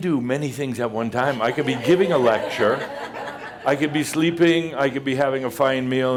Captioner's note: more laughter